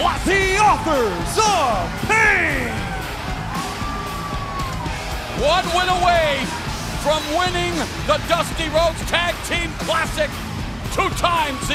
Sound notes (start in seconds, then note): 2.9 crowd cheering